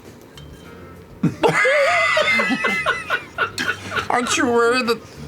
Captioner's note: laughing